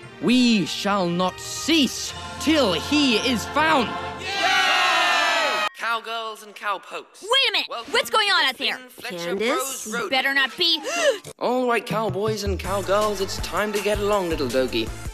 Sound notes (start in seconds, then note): 4.2 cheers; 10.8 gasp